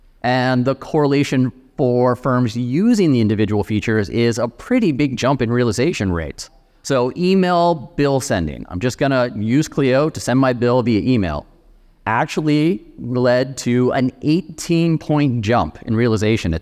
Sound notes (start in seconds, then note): none